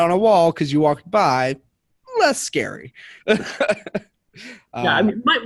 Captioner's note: laughs